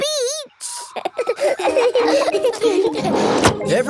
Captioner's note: all laughing